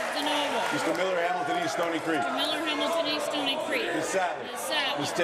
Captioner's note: applause